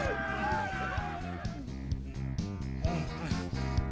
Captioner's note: grunts; exhales